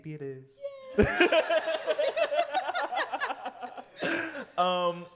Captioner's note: laughter